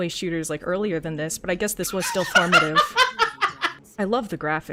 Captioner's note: laughing